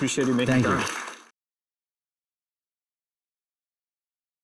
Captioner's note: applause